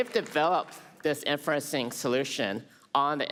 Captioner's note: applause